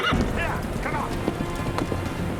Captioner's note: horse whinnies; horses galloping